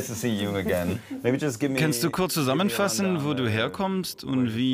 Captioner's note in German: englisch